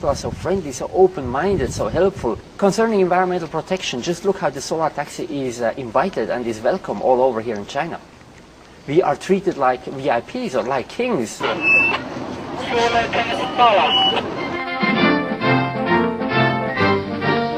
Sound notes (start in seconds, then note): 11.4 static sound; 12.6 lively music